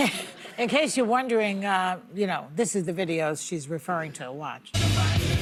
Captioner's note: laughter